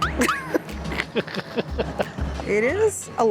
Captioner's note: laughing